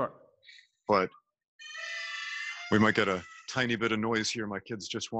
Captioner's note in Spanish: gritos de niño